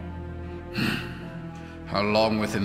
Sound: sigh

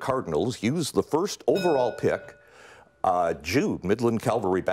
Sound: bell rings

